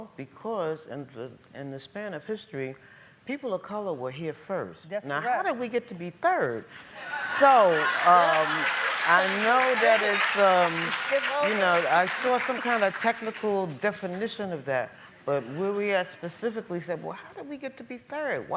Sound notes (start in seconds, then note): 6.8 laughing and applauding